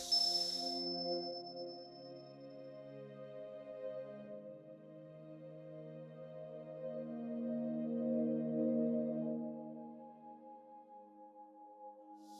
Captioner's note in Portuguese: Toque de cristal e ambiencia suave